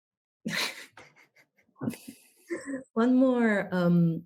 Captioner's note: laughs